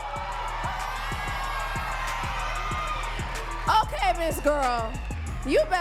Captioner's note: audience cheering and clapping